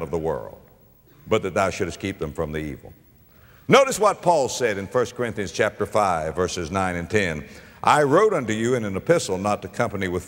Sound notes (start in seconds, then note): none